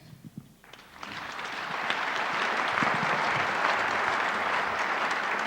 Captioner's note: audience applauds